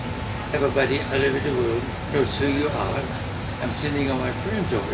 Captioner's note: speaks foreign language